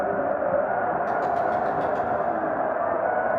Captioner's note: knocking